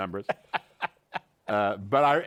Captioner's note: laughs